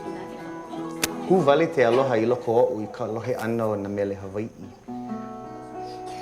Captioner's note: speaking in Hawaiian language; guitar music